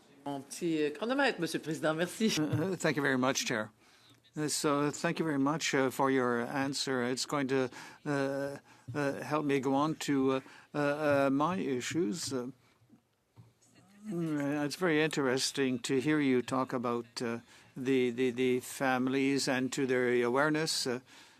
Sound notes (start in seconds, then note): 8.3 speaking French